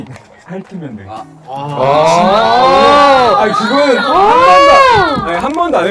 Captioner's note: clamoring